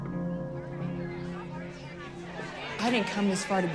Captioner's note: angry chatter